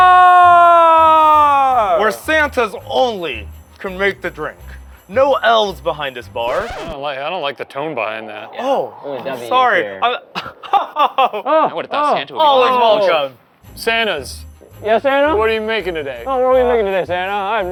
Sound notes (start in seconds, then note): 6.4 record screeching; 10.2 chuckling